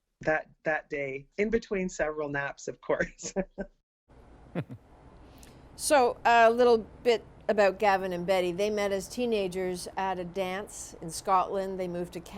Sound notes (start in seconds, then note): 4.6 laughter